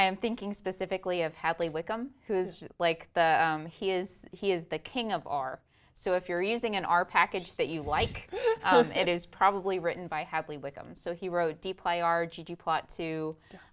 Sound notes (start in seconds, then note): 8.2 laugh